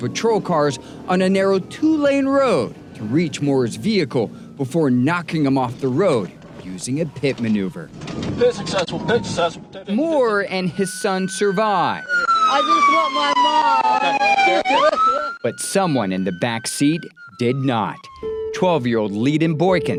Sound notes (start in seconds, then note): 11.1 sirens blaring; 18.0 tranquil ambient music